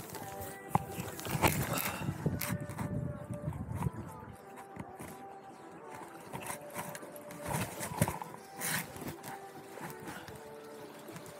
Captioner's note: river sounds